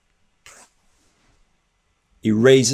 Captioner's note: nail file scrapes